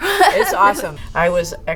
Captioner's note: laughing